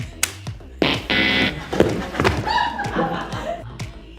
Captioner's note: laughing